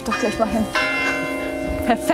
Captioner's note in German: Glockenläuten